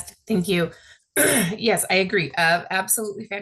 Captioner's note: clears throat